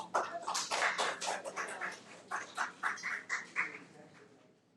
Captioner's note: audience clapping